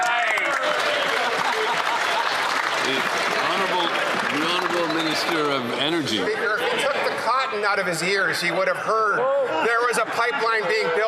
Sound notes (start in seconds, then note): 5.6 applause